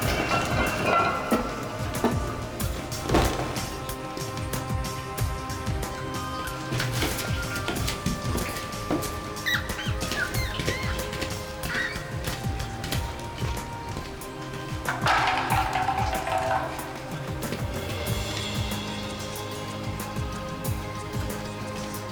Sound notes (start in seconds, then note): 0.1 metal scraping; 9.3 rat squeaking; 14.7 can rattling